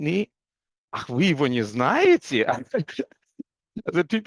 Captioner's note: Russian